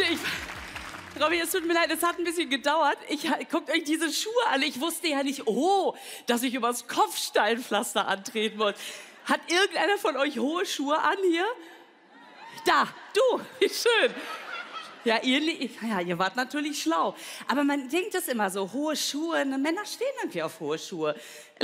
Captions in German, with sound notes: Oh Mann. Leute, ich ... Robby, es tut mir leid. Es hat 'n bisschen gedauert. Guckt euch diese Schuhe an. Ich wusste nicht, oh, dass ich übers Kopfsteinpflaster antreten muss. Hat irgendeiner von euch hohe Schuhe an hier? Da. Du! Schön. (Gelächter) Ja, ihr ... Ihr wart natürlich schlau. Aber man denkt das immer so. Hohe Schuhe - Männer stehen auf hohe Schuhe.